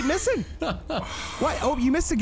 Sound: laughing

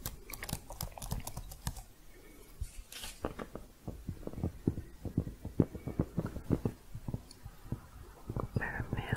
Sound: typing, then tapping

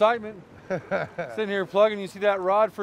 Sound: chuckling

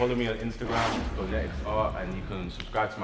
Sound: screen whooshes

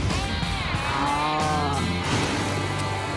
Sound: muted roar

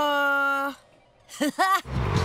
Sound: laughing

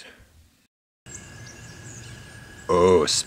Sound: birds singing

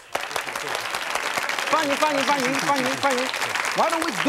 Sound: audience claps

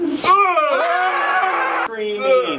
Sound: shouts

